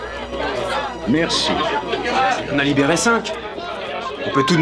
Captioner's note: reporters clamoring